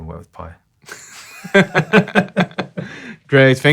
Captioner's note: both laughing